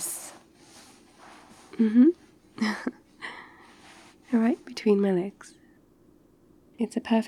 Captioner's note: shuffling; laughs